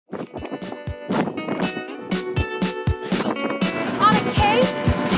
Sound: upbeat music; wind blowing

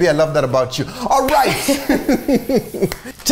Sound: laughing

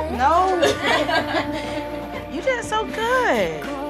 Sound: laughing

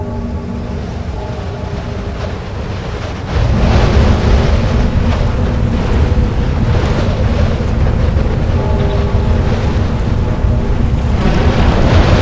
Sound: big bell ringing; big bell ringing and wind whooshing

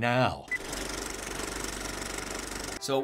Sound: movie reel clicks

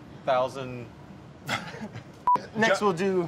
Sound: laughs

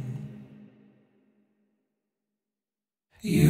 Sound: silence

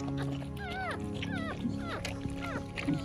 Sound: puppy gurgles

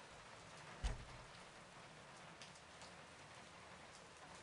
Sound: door closes

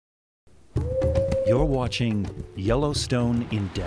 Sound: coyote howl, music, and the sound of an erupting geyser

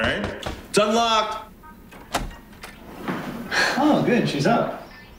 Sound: someone knocking

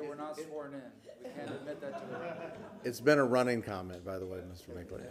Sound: laughter

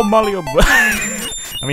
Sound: laugh

